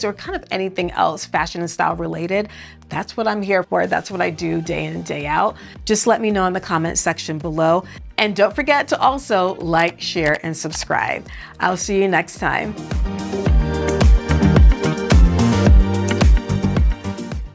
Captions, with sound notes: or, kind of, anything else, fashion and style related, that's what I'm here for. That's what I do, day in and day out. Just let me know in the comments section below. And don't forget to also, like, share and subscribe. (buttons clicking) I'll see you next time. (upbeat music)